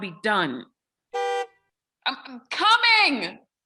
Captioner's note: car honks